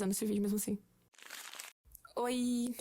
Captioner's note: guess what.. mORE paper sounds